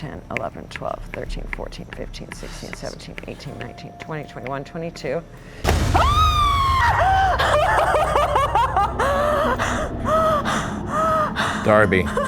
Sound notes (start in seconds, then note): 5.6 loud booming; 5.9 woman screaming